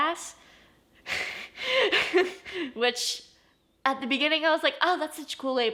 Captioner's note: laughs